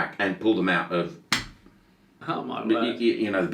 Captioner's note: bracelet clanging